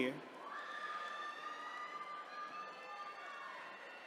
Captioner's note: attendees cheering